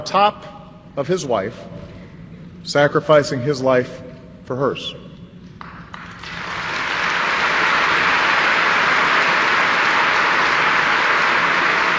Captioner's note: applause